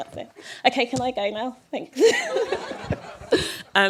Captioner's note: laughter